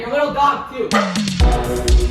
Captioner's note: dog barks